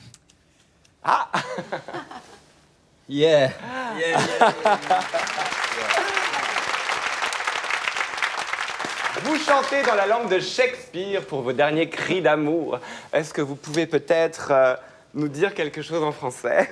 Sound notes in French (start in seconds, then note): 6.6 aplaudissement